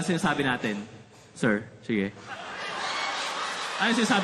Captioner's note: laughter